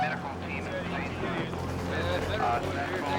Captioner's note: police radio chattering